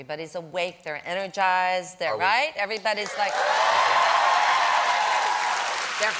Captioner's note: cheers and applause